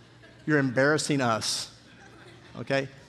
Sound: congregation laughing

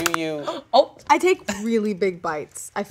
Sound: arm cracks

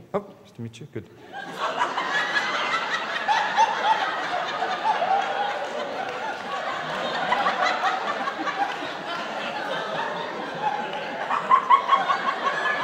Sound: laughter

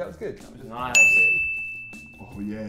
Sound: ding

